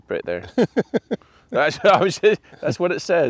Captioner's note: laughing